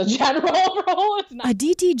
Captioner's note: laughter